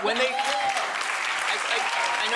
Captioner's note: applause